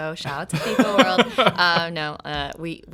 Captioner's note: laughing